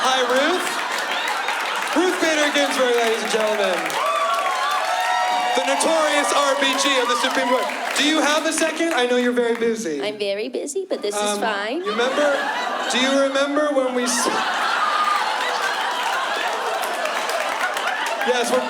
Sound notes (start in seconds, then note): 4.3 applause; 14.3 laughter